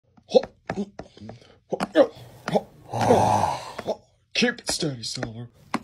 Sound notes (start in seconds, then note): 2.8 Shadow growls